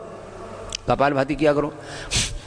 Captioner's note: breathing exercise